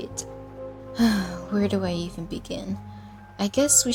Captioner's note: sigh